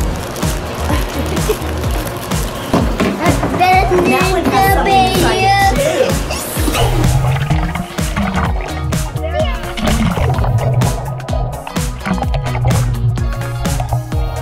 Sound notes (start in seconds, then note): 0.8 laughter; 3.0 baby chatter; 6.4 splashing